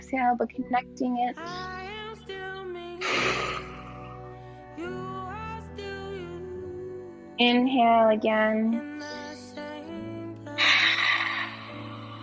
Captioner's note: inhales